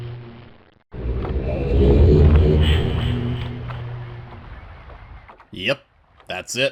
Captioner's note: strange transition sound repeats